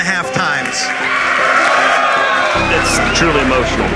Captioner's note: applause